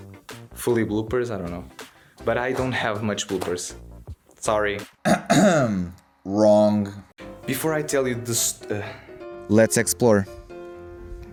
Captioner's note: dry cough